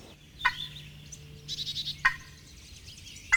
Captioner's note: turkey call